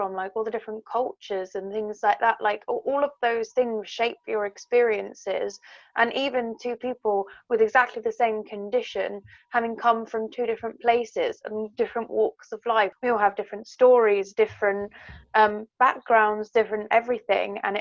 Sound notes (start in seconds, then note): none